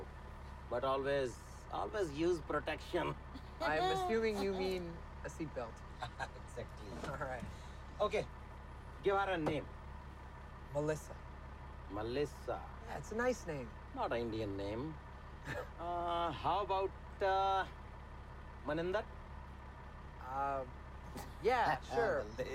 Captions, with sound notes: but always, always use protection. (laughing) - l'm assuming you mean... a seat belt. - Ha! Ha! Exactly! - Alright. - Okay. Give her a name. - Melissa. - Melissa? - That's a nice name. - Not an lndian name... (laughing) Uh, how about, uh... Maninder? - Uh... Yeah, sure. (Uncle Sammy laughing)